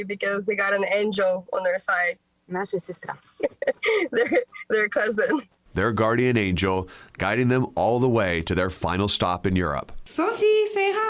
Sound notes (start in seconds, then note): 4.6 speangki feior language